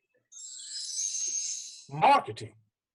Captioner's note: bells jingling